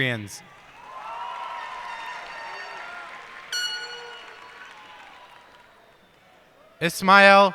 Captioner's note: cheers and applause